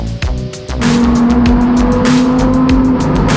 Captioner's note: engine roaring